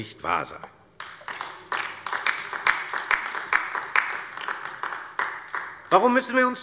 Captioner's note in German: Beifall bei der LINKEN